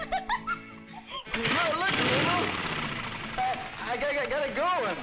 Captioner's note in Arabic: تدوير محرك الدراجة النارية